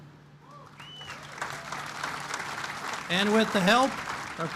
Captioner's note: applause